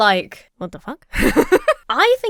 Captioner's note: laughs